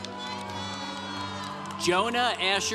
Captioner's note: congregation cheering